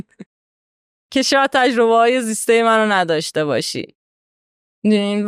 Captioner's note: laughs